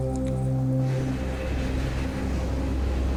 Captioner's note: train rumbling